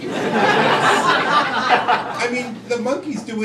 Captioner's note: crowd laughing